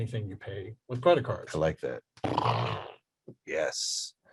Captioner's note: imitates explosion